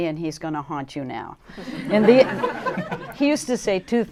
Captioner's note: laughter